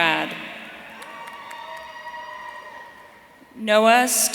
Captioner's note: audience cheering